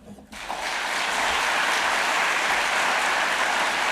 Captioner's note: audience applauding